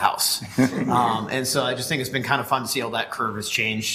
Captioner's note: laughter